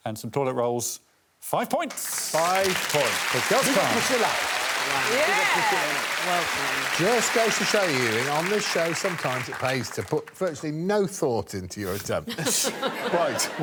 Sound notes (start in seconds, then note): 3.0 audience clapping; 7.5 audience applauding